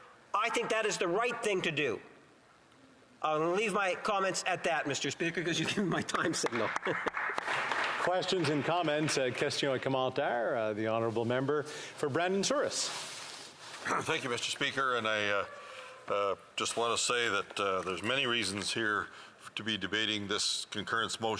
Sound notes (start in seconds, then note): 13.7 speaking French